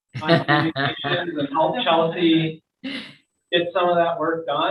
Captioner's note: laughs